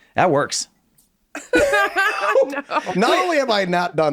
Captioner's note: laughing